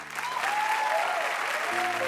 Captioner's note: audience applauding